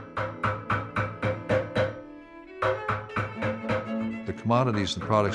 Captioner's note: hammering